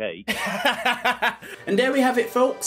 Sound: laughs

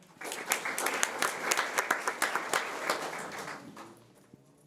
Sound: audience applauding

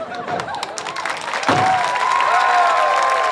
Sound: door slams; audience applause

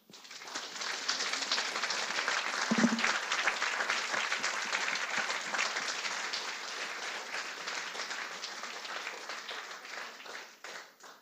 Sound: applause

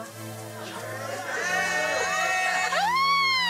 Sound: all cheering

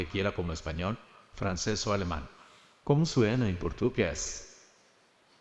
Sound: speaking spanish; speaking portuguese

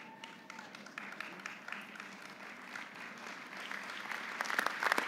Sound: audience applauding

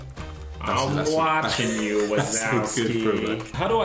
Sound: laughing

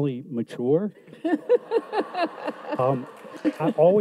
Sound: audience laughs

